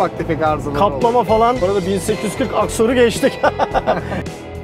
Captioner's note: laughings